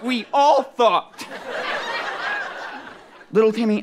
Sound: audience laughter

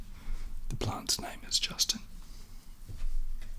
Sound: whispers

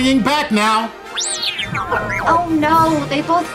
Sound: beeping

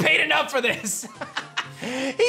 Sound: laughs

